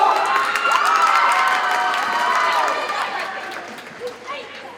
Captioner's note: audience cheers and applauds